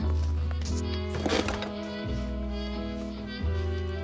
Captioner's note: chair squeaks